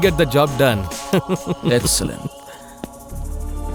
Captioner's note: laughs